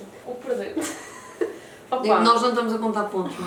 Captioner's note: laughs